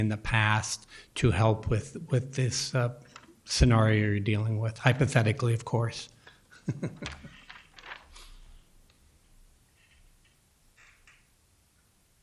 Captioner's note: chuckle